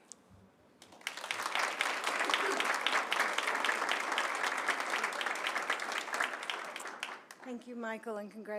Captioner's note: applause